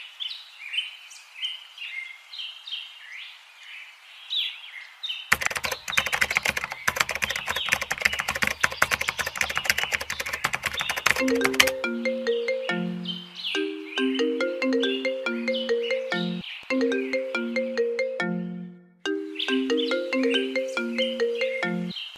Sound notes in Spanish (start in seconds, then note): 5.3 Sonido de Escribiendo; 11.0 Llamada telefónica